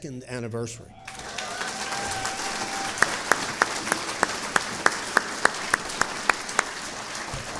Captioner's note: audience cheering and applauding